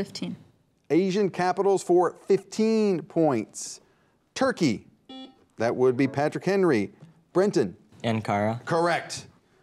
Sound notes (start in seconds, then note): 5.0 buzzer beeps